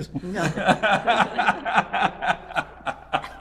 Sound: all laughing

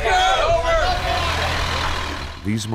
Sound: crowd chattering; bus engine rumbling

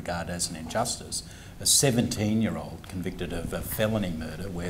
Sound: none

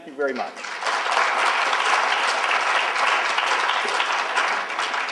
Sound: applauding

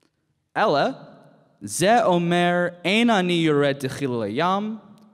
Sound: speaking in Hebrew

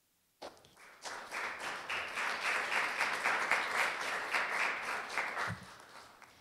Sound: applause

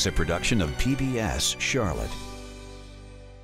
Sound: male Voice

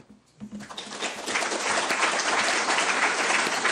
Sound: applause

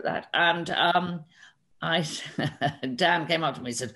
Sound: laughs

